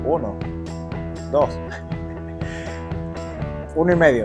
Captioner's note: laugh